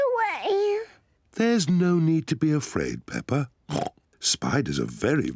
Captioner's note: oinks